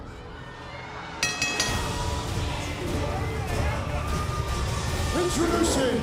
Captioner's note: bell ringing